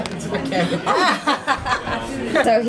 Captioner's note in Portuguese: risos